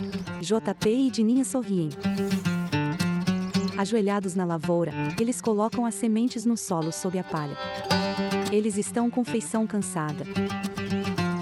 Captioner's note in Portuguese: Pássaros